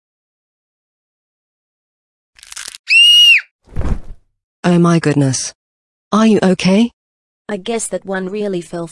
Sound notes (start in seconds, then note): 2.8 Luan screaming